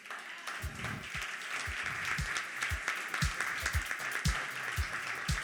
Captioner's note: applause